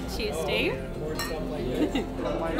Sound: glasses clinking; laughing

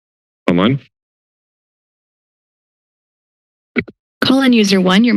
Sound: silence

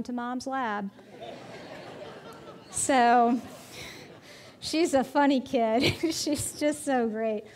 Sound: audience laughing

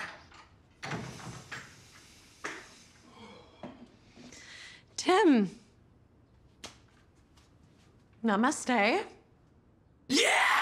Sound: door opens

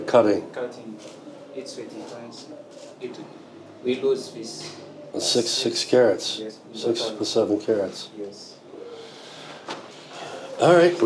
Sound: speaks Swahili

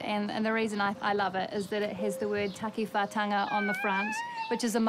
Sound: squeals gently

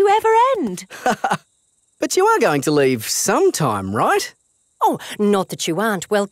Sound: laughs

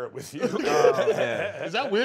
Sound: laughter

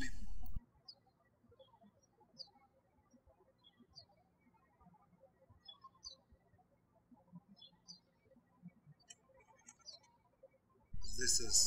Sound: birds chirping

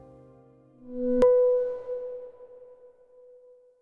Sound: chiming

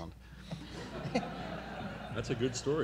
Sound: everyone laughing

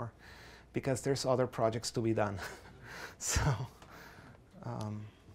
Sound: laughs softly

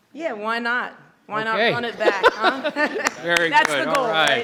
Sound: chuckles

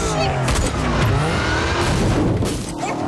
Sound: thudding

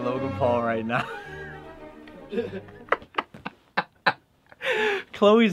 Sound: laughter

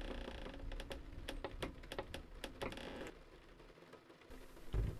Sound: loud creak

